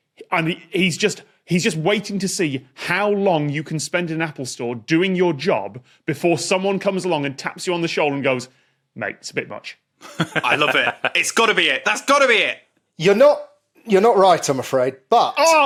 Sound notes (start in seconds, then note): 10.0 chuckles